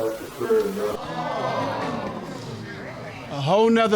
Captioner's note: audience exclaim